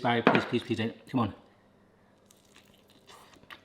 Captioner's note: munching